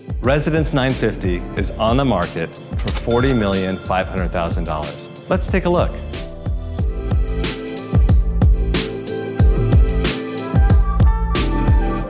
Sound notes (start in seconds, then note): 2.8 register rings